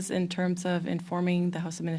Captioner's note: speaking French